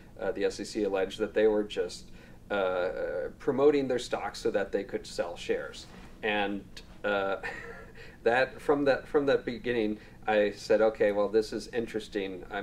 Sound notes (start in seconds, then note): 7.4 laughs